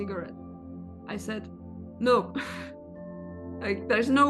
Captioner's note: chuckles